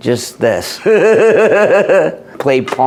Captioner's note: laughing